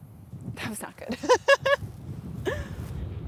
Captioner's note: laughs